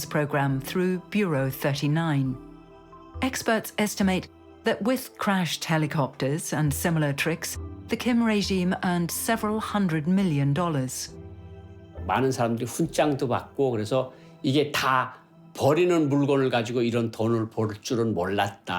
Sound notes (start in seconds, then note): 12.2 speaking Korean